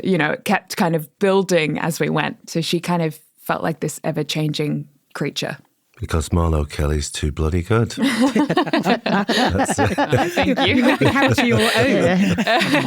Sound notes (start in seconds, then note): 7.8 all laughing